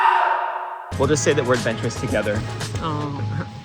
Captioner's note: maniacal laughs